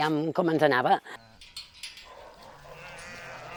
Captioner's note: metallic sound, barking and bleating